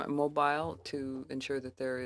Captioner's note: speaking French